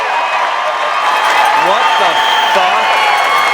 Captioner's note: crowd cheering